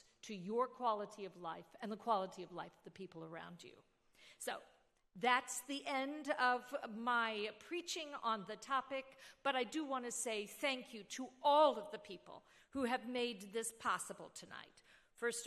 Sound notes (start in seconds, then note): none